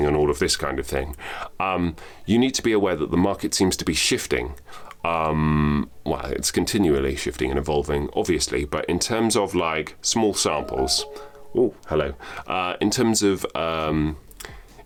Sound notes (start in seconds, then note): 10.5 gentle chiming